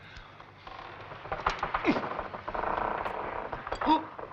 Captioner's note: grunting